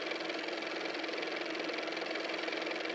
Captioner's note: car motor